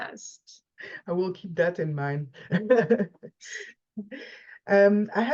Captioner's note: laugh